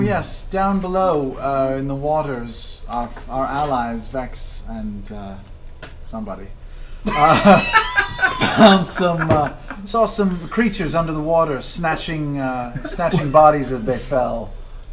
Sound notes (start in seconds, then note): 7.0 all laugh